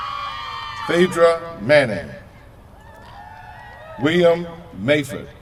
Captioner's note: cheers from crowd